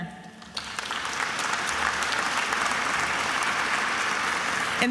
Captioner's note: attendees applauding